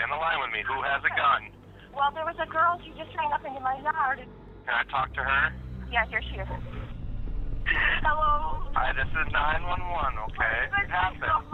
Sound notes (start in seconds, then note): 7.7 Madison crying